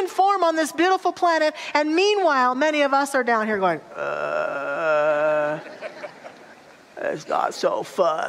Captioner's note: audience laughter